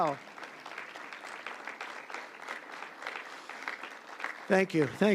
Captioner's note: applause